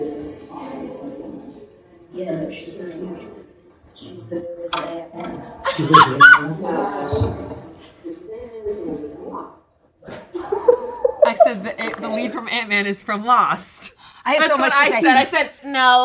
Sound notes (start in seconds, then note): 5.6 laughs